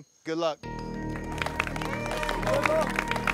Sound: clapping

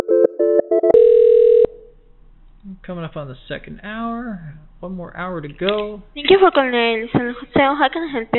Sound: phone ringing

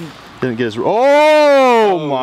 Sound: exclaims

